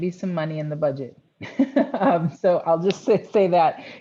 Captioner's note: laughter